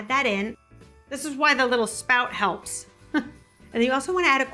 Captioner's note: chuckles